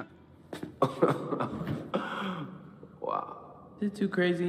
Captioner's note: laughs